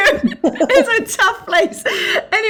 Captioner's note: laughing